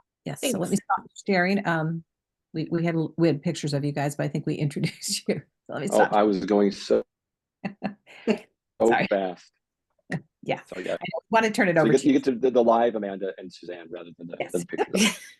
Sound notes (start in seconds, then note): 7.6 laughs